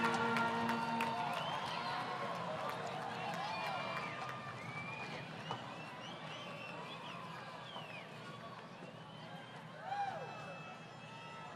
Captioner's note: crowd Cheering